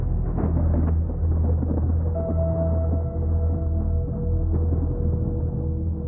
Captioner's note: thunder booming